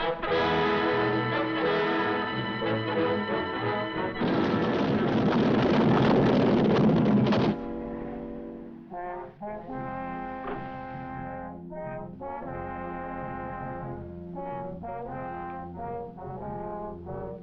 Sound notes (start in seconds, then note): 0.0 triumphant music; 4.1 building rumbling; 9.0 light dramatic music